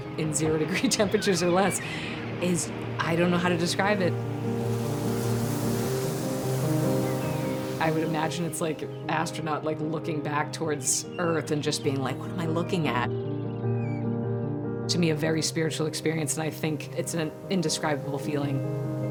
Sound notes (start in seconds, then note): 0.7 chuckles; 4.7 inspirational music; 4.7 seagulls calling